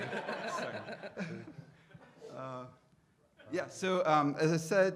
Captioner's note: audience laughing